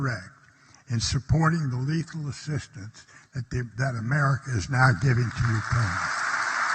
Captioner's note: applause